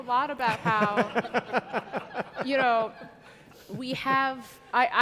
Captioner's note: audience laughing